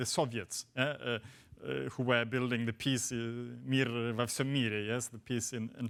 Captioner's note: speaks foreign language